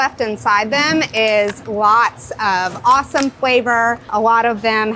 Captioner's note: shell cracking